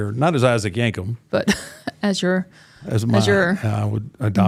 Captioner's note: laughs